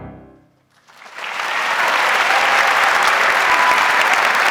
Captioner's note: audience applauds